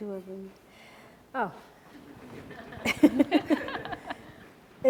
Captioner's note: laughing